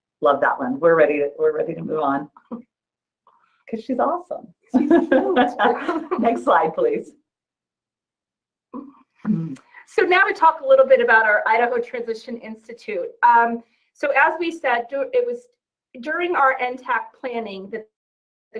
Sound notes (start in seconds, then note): 4.8 laughs